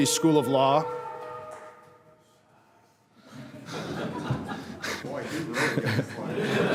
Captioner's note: laughter